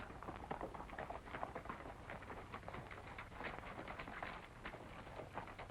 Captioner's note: horses walking away